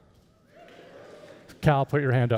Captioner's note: audience whooping